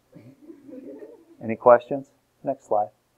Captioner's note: students chuckle